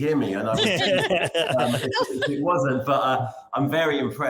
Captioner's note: laughing